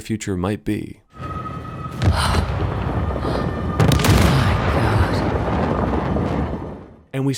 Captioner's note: gasps